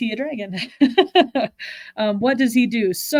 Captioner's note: chuckles